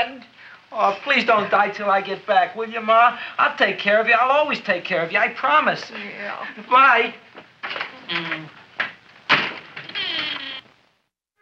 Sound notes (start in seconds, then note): none